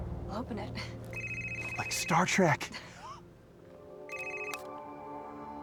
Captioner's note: suspenseful music continues; laughs; gentle music